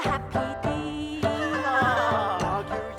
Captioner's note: laugh